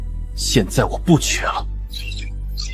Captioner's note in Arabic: سعال